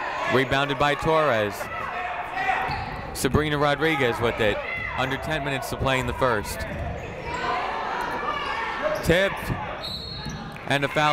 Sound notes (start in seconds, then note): 0.0 people shouting in the crowd; 7.5 people shouting in the crowd; 9.8 whistle tweeting